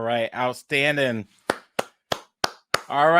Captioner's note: clapping